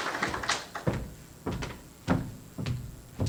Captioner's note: applause; footsteps